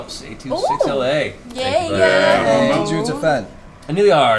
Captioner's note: cheering